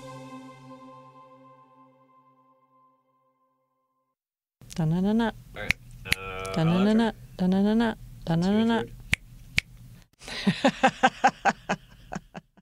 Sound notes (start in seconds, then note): 3.6 singing theme song; 9.5 snap; 10.2 laughter